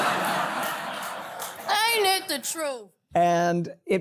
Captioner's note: laughter